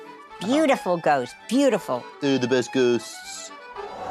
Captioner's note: in mocking tone